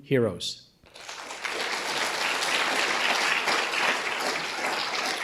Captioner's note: audience applauding